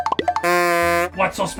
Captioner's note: horn